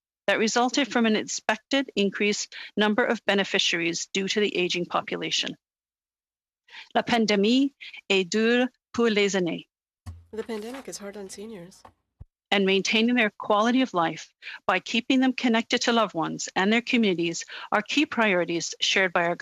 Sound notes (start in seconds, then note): 12.1 speaking French